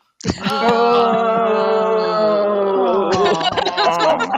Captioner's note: groaning